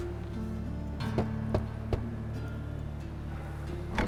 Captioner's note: knock knock knock